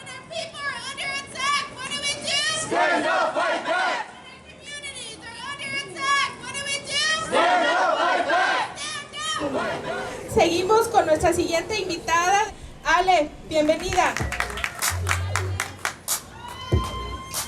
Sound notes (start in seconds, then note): 2.8 crowd; 7.4 crowd; 10.3 speaking in foreign language; 13.6 audience applauding